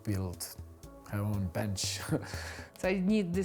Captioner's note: chuckles